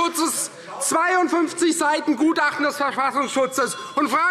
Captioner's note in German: Unruhe – Glockenzeichen